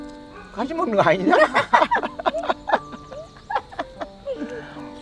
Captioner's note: both laughing